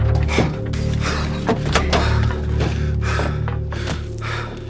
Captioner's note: breathing heavily